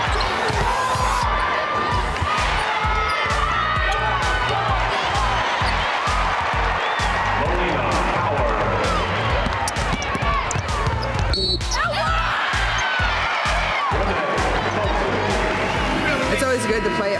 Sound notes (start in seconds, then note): 0.6 cheers and applause